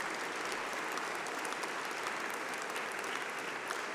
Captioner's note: applause